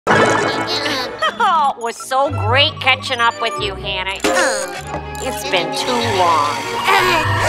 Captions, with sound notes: (bubbling) (Karen laughing) - It was so great catching up with you, Hannah. It's been too long.